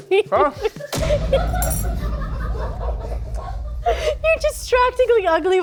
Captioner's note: laughing